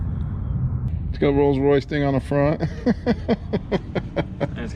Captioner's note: laughing